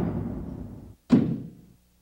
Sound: thump

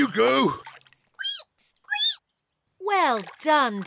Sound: laughs; squeaks

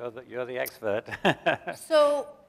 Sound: laughs

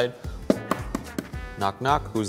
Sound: egg thudding

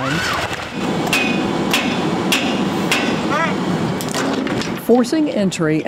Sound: metal hammering

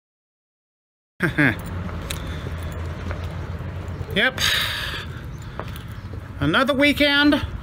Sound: chuckles

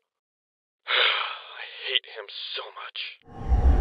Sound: sigh

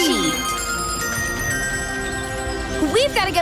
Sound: bell ringing

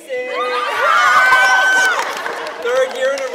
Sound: cheering

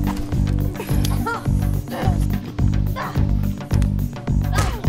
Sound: woman choking; groaning

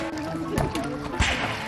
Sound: ball thumps; fence clangs

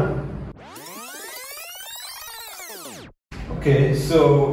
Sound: vinyl rewinding sound

